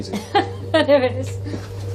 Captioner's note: laughs